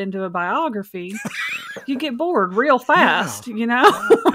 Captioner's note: laughs